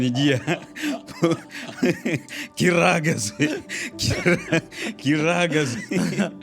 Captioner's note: laughter